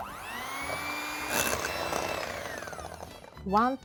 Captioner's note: hand mixer whirs